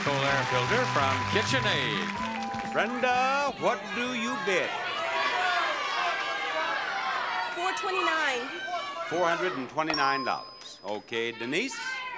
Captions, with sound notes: from KitchenAid. Brenda, what do you bid? (audience yelling) 429. $429. Okay, Denise?